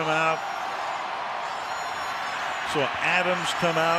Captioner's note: crowd cheering